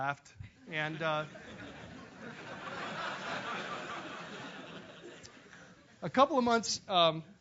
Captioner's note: laugh